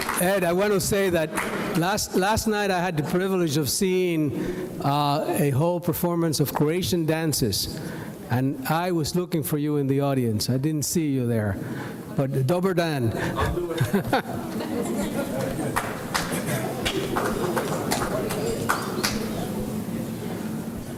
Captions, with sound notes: Ed, I want to say that last night I had the privilege of seeing a whole performance of Croatian dances. And I was looking for you in the audience. I didn't see you there. But, Dubber Dan. - I'll do whatever. (audience laughs)